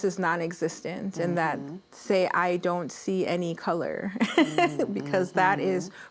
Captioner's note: laughs